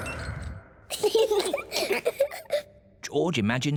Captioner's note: both laugh